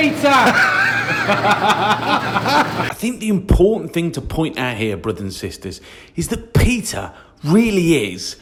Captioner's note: laughs